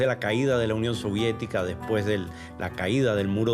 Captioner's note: speaking Spanish